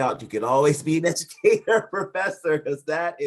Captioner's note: laughing